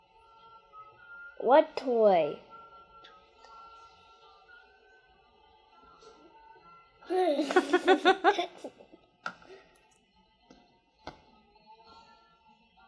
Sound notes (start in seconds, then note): 7.1 laughs